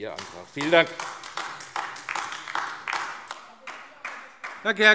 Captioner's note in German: Beifall AfD